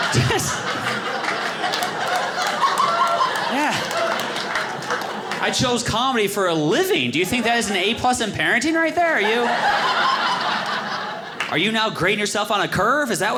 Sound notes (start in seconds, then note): 0.0 audience laughing; 9.1 audience laughing